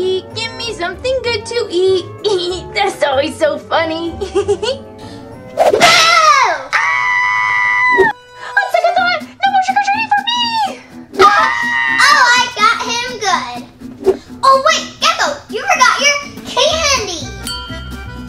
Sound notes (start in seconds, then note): 4.2 giggles; 5.8 Goofy Gekko screams